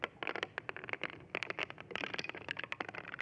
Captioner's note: crackling